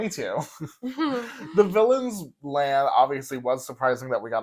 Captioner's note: laugh